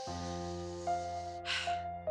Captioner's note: breathes deeply